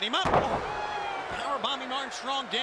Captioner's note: crowd cheering